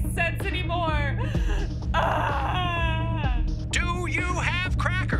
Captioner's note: screams